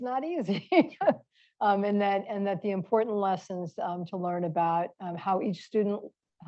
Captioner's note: laughs